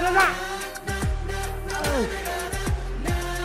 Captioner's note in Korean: 싸아악